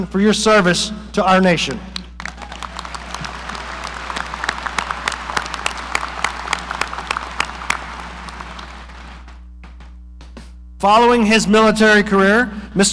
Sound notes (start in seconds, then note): 2.1 audience applauding